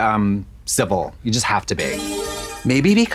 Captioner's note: bright chime